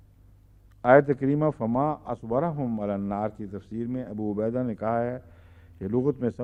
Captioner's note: Arabic